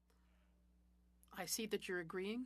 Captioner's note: speaking French